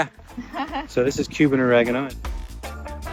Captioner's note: chuckles